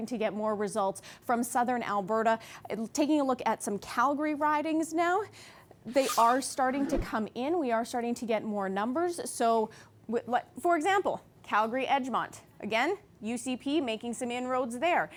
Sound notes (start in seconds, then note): none